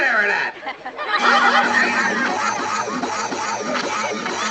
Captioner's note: audience laughing